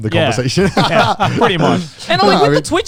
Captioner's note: all laughing